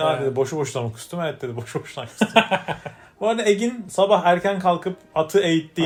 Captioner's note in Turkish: kahkaha